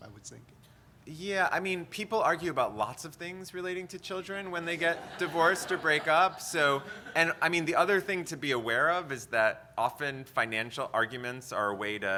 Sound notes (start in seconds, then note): 4.6 audience laughter